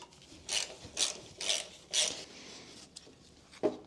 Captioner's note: wrench cracking